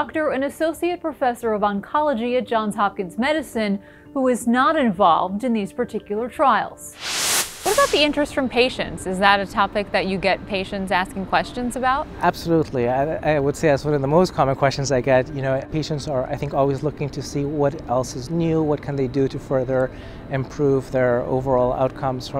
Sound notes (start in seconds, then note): 6.9 screen whooshing